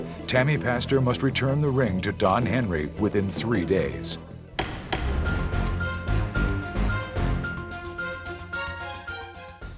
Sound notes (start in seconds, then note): 4.5 upbeat music; 4.6 gavel banging